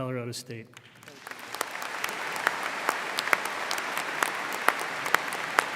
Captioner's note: audience applauding